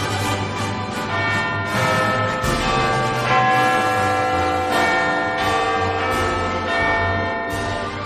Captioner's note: Big Ben sounds half hour